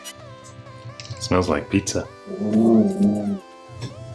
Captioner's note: dog growling